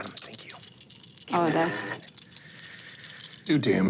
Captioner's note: dice clinking